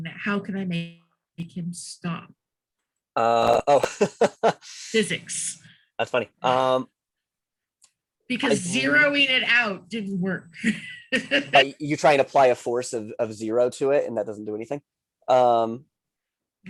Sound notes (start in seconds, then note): 3.5 laughs; 10.6 laughs